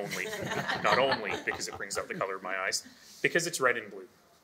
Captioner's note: all laughing